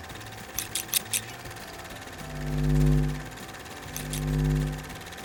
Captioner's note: film camera rolling; scissors snipping